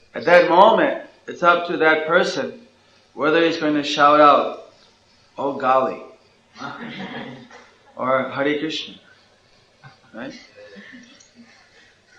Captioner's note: laughter